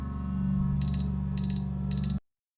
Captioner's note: beeping